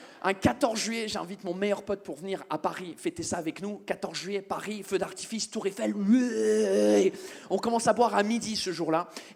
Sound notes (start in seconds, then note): 7.4 english noise